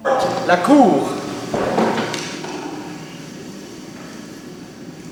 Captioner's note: speaking foreign language